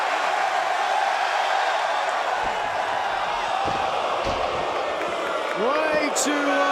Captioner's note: crowd cheering